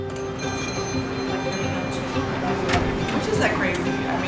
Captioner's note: bell ringing